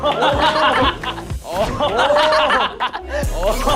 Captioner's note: bang